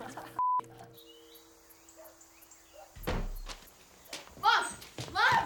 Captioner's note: boy laughs; birds chirping